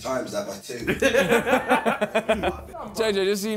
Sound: laughs

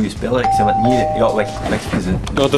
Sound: door rings

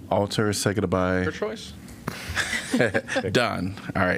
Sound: laughter

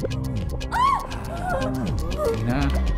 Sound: screams

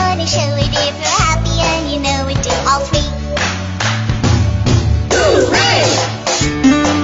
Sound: clap clap stomp stomp Hoo-Ray

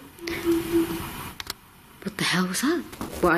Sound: muffled synthesised noise

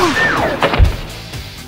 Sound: gun shot

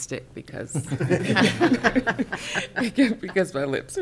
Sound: council members laughing

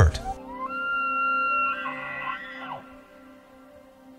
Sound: elk bugle

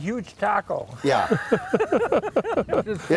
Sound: laughing

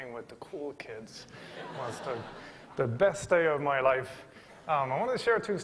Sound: laughter

